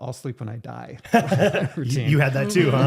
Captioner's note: both laughing